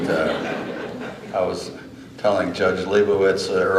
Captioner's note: laughter